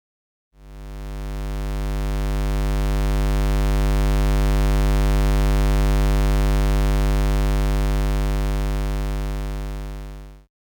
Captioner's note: square wave sound